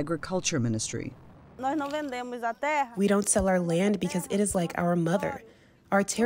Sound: through translator

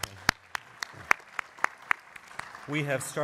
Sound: applause

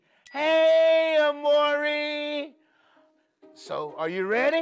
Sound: bell chimes

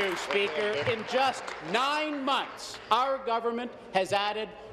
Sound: applause

